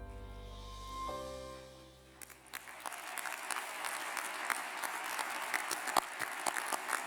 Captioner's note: applause